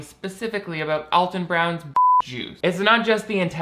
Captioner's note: beep